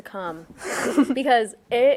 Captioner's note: all chuckling